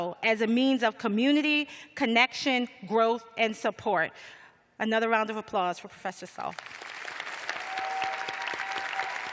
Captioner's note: cheers and applause